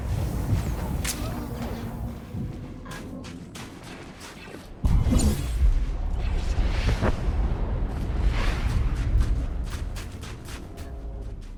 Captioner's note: explosion